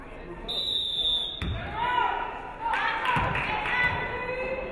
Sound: referee whistles

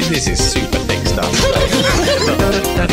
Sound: laughing

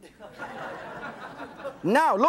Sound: audience chuckles

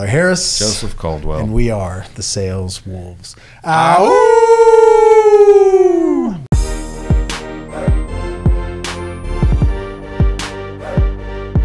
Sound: howl

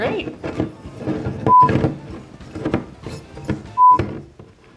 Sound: beeping

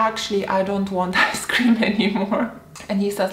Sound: laughs

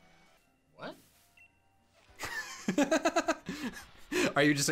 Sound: laughs

